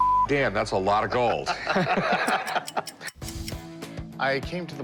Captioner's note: laughter